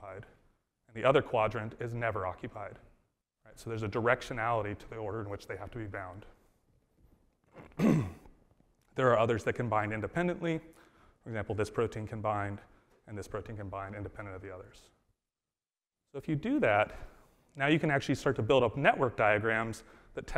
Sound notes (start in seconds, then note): 7.6 coughs